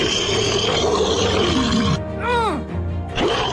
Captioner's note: monster Roar